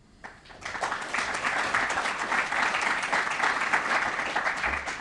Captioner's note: applause